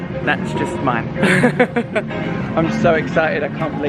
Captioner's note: laughs